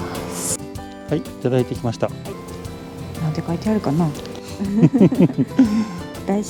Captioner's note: laughs